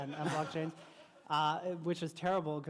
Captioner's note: laughter